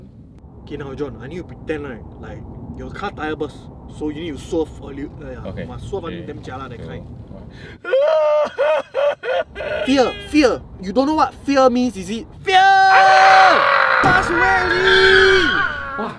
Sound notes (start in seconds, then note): 7.8 badly acted anxious crying